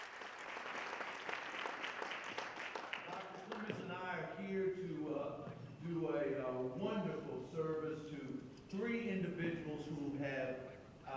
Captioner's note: applause